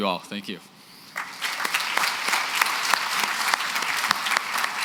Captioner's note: applause